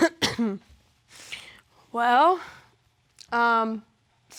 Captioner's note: coughs